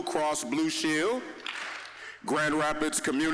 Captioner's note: audience clapping once